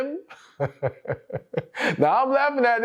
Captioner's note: laughs